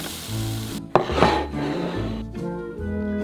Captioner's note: plate sliding